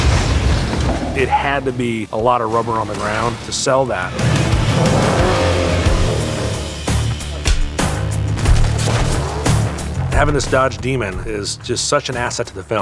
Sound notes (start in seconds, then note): 4.0 revving